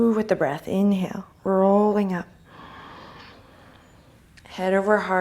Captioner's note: inhale